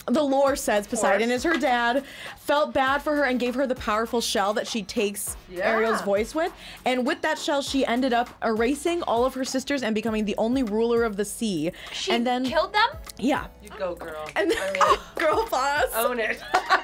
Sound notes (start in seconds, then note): 14.6 gasps; 16.2 group laughs